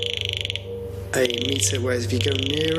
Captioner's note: computer clacks